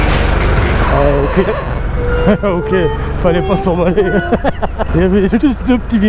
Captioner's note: laughs